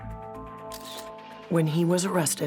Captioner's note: camera shutter clicks